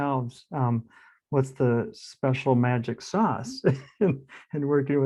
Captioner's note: laughs